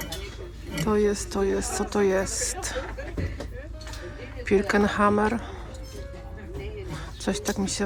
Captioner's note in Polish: śmiech